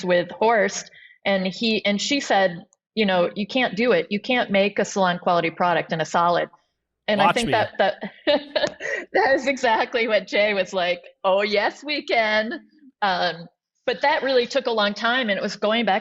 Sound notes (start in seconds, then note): 7.2 laughs